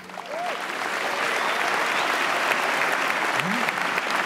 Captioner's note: audience applauds